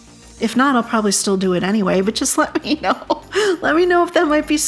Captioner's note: giggle